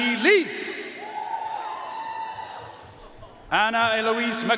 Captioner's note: audience cheering and applauding